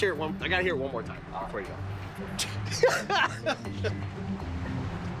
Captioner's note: laughs